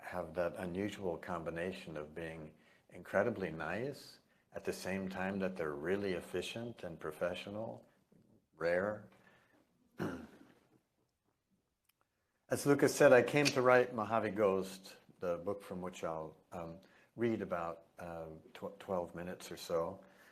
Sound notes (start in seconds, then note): 9.9 cough